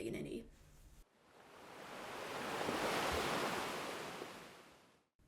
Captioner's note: waves crashing